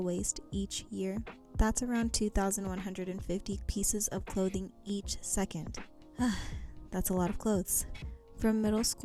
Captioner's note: sigh